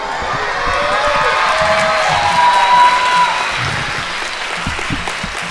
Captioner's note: audience applauding